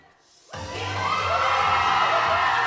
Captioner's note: crowd cheering; pop music